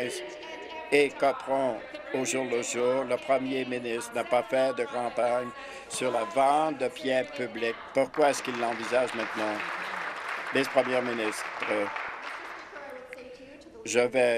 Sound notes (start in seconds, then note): 10.5 applause